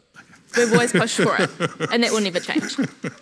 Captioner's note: laughing